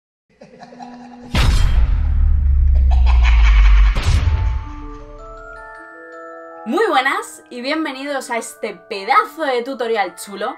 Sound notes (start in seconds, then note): 2.6 creepy laughing